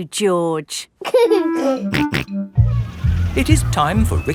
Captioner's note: giggling and snorting